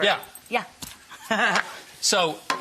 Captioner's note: laughs